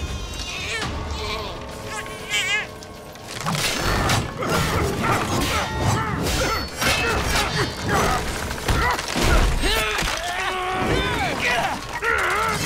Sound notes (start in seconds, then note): 0.1 crying; 9.2 grunting